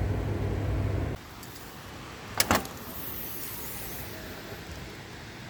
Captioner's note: opening car hood